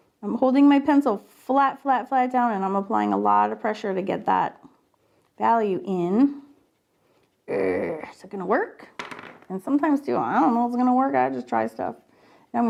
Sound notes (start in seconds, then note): 7.5 growling